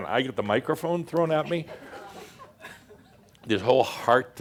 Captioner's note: more giggles